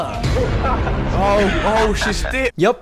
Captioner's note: laughing